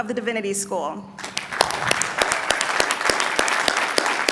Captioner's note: applause